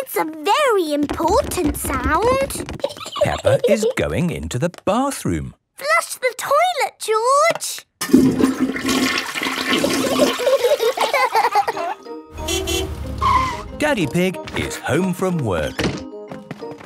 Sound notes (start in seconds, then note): 2.8 giggling; 10.2 laughter; 12.4 honking